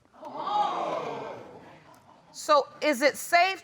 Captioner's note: audience exclaiming